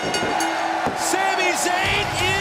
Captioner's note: crowd cheering; bell ringing